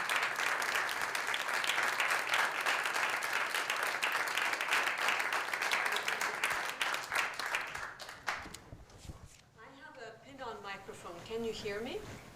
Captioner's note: applause